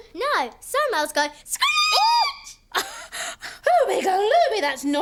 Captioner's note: screeching